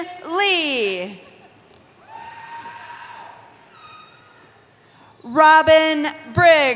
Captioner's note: cheering